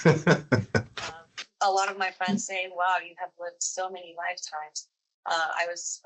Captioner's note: laughs